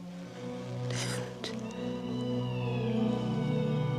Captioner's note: whispers